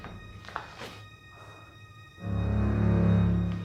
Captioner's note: body thuds